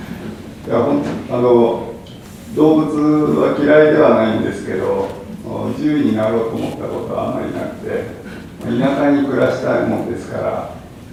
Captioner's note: japanese